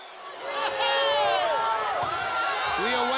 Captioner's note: group cheering